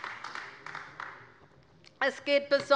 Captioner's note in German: Beifall bei der LINKEN